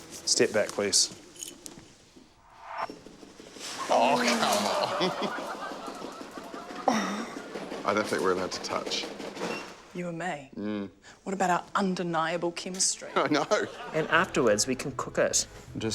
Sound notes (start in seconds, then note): 2.5 whizz, rattling; 3.9 audience groans; 6.8 gasps; 9.4 machine beeps